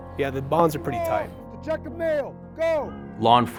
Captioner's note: yelling